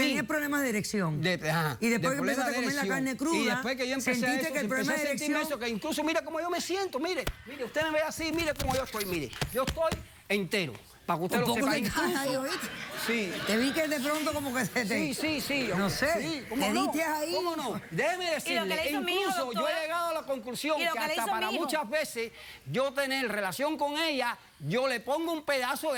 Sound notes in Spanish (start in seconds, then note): 12.2 golpes; 14.5 risas; 16.7 risas